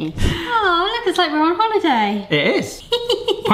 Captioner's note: laughs